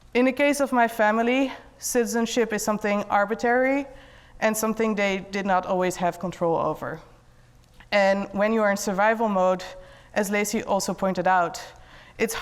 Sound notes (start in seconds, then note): none